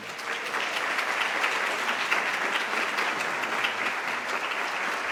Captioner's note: applause